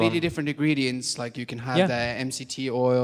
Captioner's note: voiceover